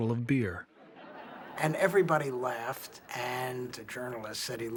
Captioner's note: people laughing